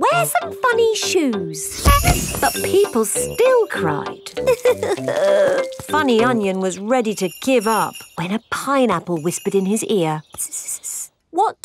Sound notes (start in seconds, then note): 4.6 crying